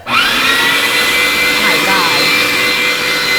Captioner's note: grinder whirring